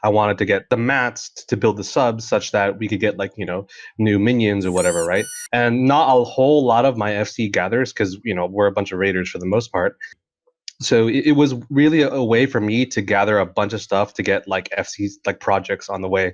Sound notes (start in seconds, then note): 4.6 plushy squeak